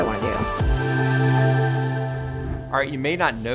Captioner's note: classy music intensifies; graphics whooshing